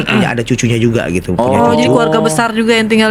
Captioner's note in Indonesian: berdehem